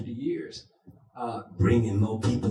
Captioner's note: in a deep voice